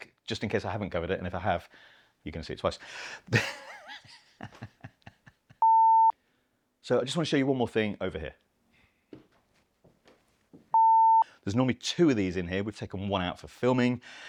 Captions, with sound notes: just in case I haven't covered it. And if I have, you can see it twice. (laughs) (beep) So I just want to show you one more thing over here. (beep) There's normally two of these in here. We've taken one out for filming.